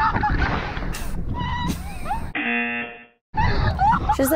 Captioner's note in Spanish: chica a la izquierda grita; se ríe; zumbador